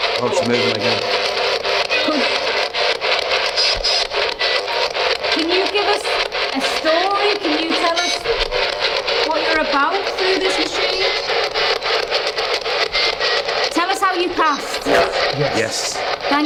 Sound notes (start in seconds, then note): 2.4 distorted speaking; 2.4 static hissing